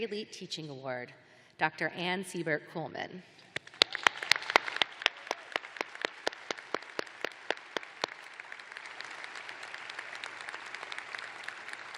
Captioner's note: applause